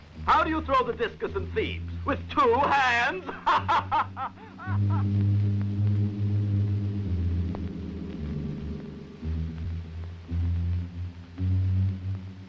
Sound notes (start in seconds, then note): 2.5 laughing; 4.4 suspenseful orchestral music